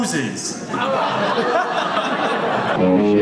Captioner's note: audience laughs